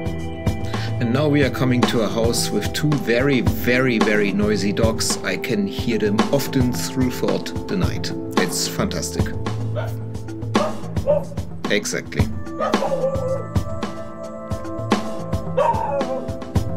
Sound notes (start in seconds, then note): 7.9 sarcastically; 10.5 dog barking loudly